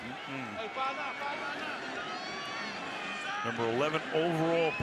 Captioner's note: onfield chatter